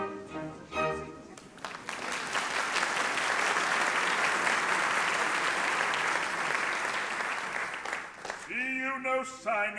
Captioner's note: applause